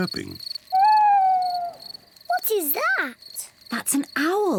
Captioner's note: owl hoots